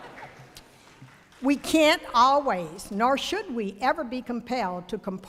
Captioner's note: ~laughter~